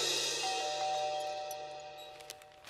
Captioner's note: Doorbell ringing